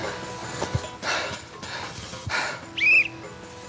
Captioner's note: panting; whistle blows